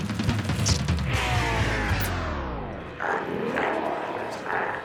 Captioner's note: energetic music continues; reel whirs; glowzies growling